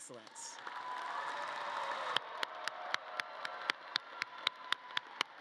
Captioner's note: audience cheering and clapping